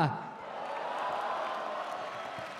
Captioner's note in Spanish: Aplausos